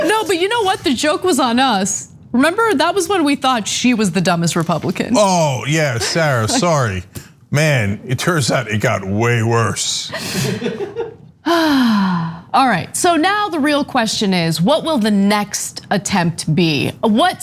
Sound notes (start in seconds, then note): 10.1 laugh